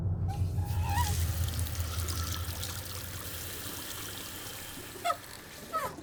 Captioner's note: water running